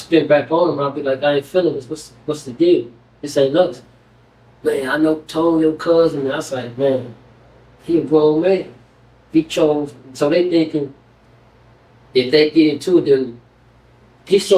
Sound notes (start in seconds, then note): none